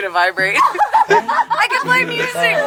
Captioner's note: both laugh